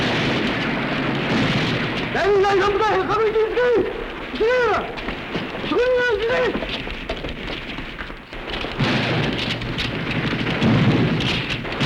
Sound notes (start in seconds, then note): 1.8 speaking japanese; 8.3 gunshots